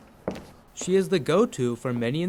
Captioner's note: shoes tapping